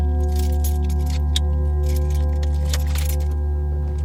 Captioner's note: keys rattling